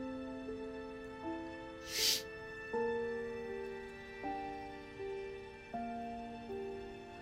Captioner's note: Bree sniffles; solemn music